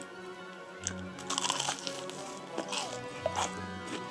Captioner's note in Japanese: 咀嚼音